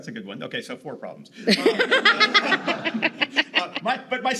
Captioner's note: audience laughs